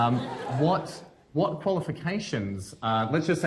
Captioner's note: laughter